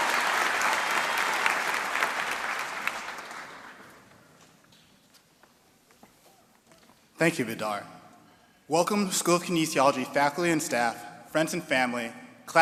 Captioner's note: applause and cheering